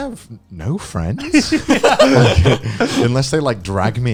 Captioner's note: laughing